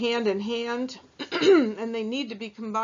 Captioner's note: clears throat